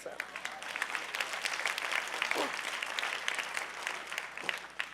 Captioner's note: audience applauding